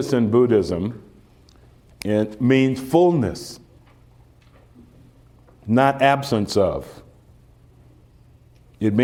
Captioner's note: none